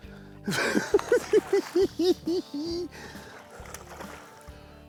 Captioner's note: laughs